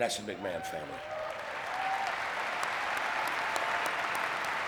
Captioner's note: audience clapping